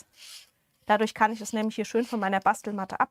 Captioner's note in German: schnauben